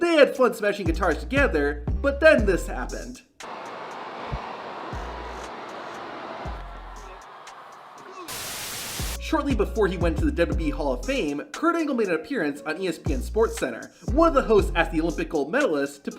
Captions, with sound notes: They had fun smashing guitars together, but then this happened. (crowd noises) (static) Shortly before he went to the WWE Hall of Fame, Kurt Angle made an appearance on ESPN's Sports Center. One of the hosts asked the Olympic Gold medalist